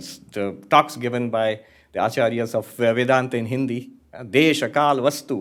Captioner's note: hindi; hindi